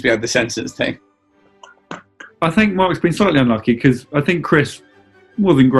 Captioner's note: cackling